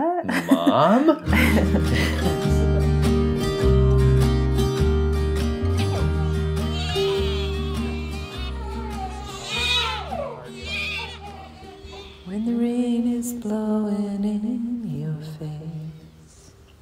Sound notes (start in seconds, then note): 0.2 both laugh; 2.8 guitar music resumes; 5.7 babies crying; 12.0 singing